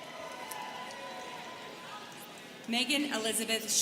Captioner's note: students chattering